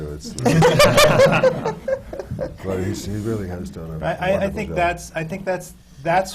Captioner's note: laughter